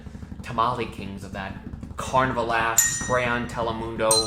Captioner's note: bell dings